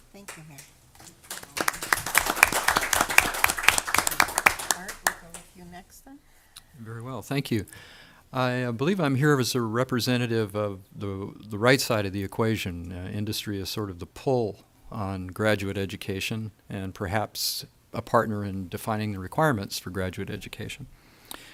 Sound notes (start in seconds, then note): 1.0 audience applause